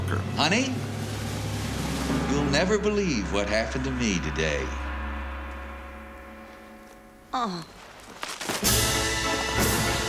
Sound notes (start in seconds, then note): 7.2 groans